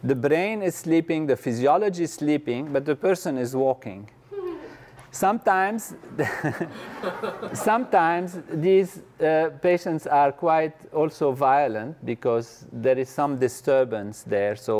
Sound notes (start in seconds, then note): 6.2 laugh